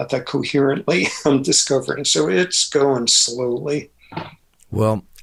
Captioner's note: laughs